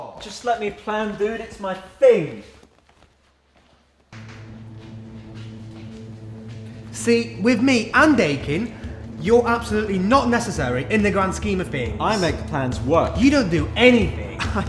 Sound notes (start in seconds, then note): 5.1 intense music; 5.1 sticky footsteps